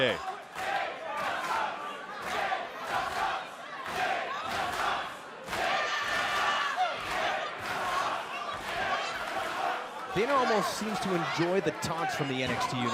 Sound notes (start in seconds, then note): 4.0 fans chanting